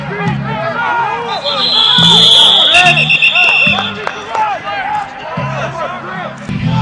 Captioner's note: whistles blowing, shouting